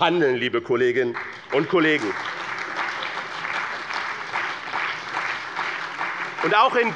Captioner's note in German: Beifall bei BÜNDNIS 90/DIE GRÜNEN, der CDU, der SPD und der FDP